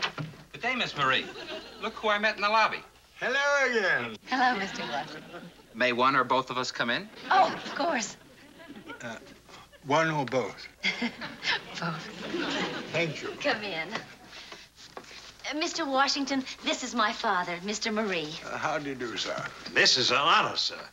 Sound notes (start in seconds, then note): 10.8 laughter